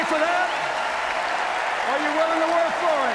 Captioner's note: cheers, applause